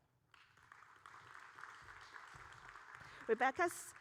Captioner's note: audience applauding